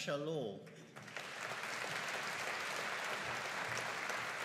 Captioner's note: audience applauding